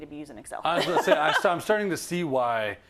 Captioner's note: laugh